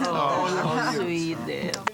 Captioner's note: crowd